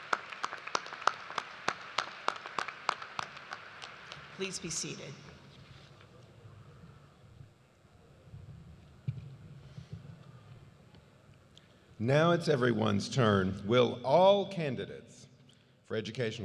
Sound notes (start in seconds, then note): 2.7 applause